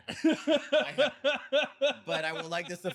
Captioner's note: laughing